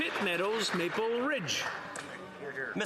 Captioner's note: some Applause